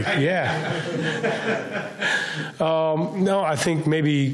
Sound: laughs

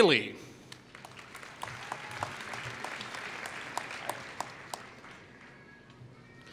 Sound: applause

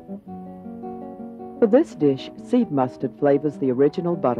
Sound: voiceover

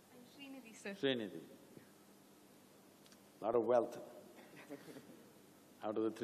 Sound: laughter

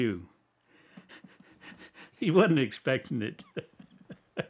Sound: laughs

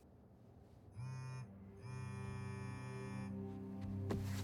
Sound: phone buzzing

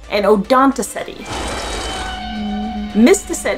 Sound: whale vocalizations

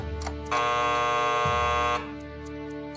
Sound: clock Ticking; buzzer Sounds

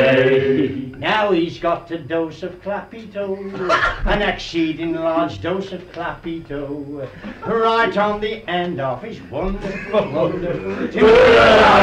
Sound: raucous laughter

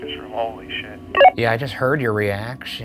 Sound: walkie beeps

